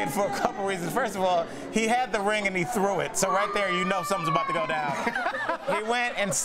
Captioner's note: laughter